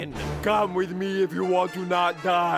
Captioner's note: intense music; imitating arnold schwarzenegger